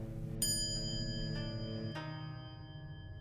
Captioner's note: quiet chime